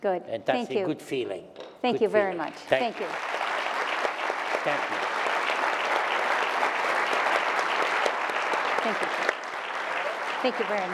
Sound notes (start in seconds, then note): 2.5 applause